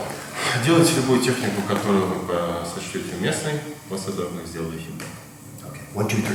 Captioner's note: speaking in a foreign language